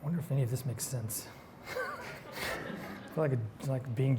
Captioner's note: chuckles